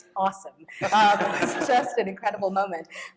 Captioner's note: laughter